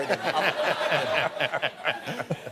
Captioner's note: laughter